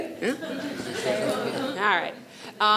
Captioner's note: audience laughs